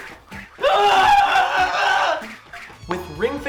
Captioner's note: screaming